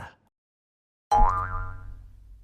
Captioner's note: boing